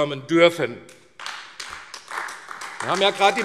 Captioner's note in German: Beifall AfD